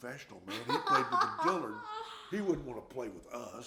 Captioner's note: laughing